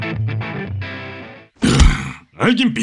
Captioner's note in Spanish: gruñido